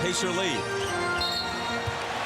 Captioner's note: whistle blows